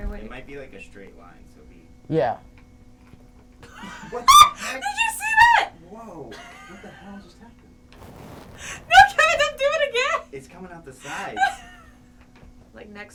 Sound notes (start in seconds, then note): 3.7 laughing; 6.4 laughing; 11.0 laughing